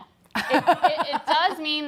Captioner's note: laughs